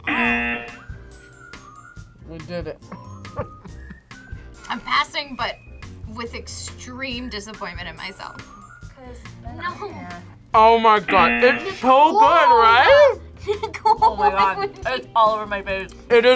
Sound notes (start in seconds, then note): 0.0 buzzer; 2.8 laughs; 11.1 buzzer